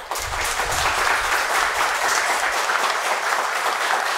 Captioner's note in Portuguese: aplausos